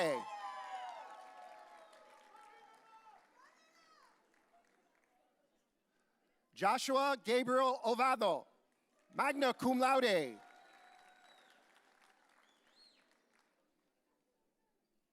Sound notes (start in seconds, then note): 0.0 audience cheering; 11.0 audience cheering